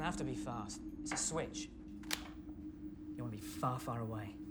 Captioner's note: snapping